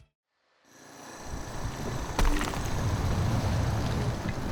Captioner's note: concrete scraping